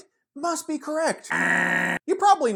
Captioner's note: poorly voiced buzzer sound